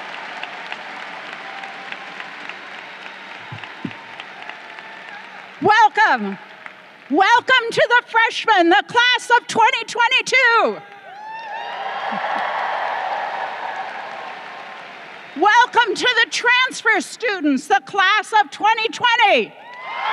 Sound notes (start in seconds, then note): 10.7 crowd cheering; 19.5 crowd cheering